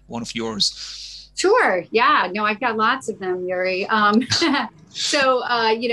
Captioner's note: laughing